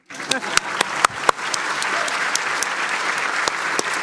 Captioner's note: applause